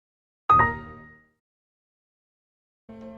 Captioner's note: Window alert sound